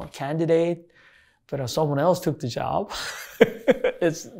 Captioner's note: laughs